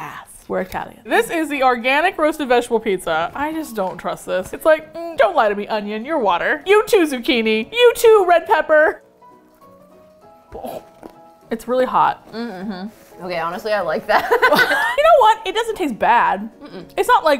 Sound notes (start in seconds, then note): 10.5 clears throat; 14.2 laughs